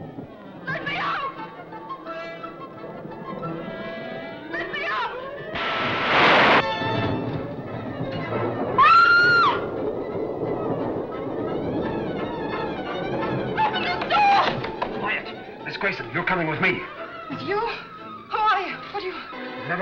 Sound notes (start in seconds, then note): 6.3 thunder crashing; 9.3 Frances shrieking